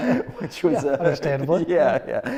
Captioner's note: laughs